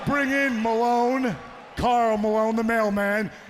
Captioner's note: crowd cheering